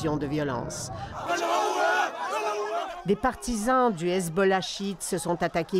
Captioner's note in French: cris des manifestants